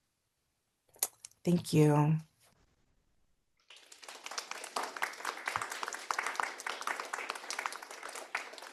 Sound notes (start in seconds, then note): 3.6 audience applauding